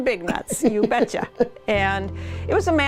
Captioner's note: laughter